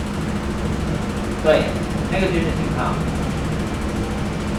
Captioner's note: speaking in Mandarin